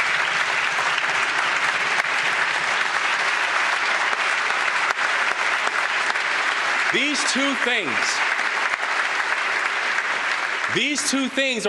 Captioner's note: applause